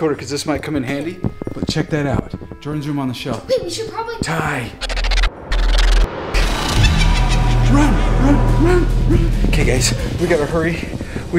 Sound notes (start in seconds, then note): 6.4 evil laughing